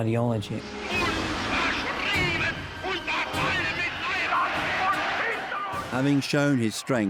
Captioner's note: Hitler speaking in foreign language